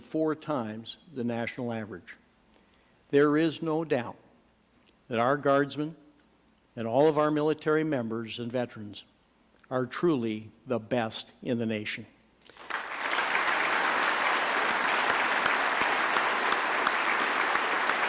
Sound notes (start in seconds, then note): 9.5 applause